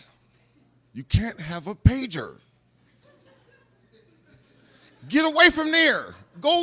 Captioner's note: laughter